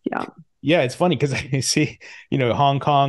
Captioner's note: laughs